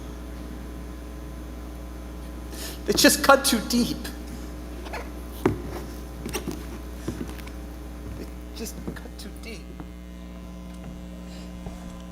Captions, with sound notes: they just cut too deep. [boots squeaking] They just cut too deep.